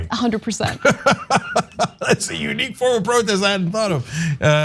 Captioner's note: laugh